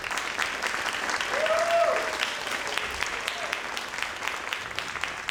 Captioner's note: crowd applauding; crowd cheering